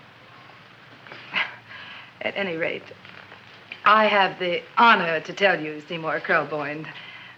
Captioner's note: chuckles